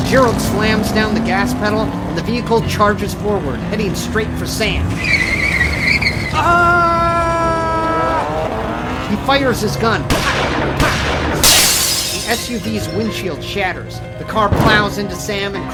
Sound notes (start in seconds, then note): 4.9 Sam screams; 5.1 tires screech; 6.2 car engine revs; 10.0 gun shots; 10.4 windshield shutters